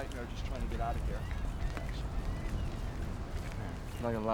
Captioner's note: seagulls squawking